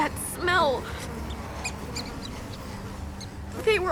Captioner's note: flies buzz, rat squeaks